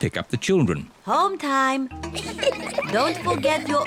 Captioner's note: children giggling